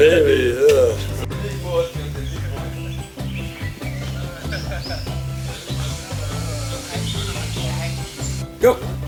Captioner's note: chatting